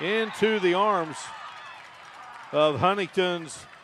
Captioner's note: applause